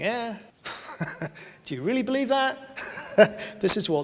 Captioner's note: laughs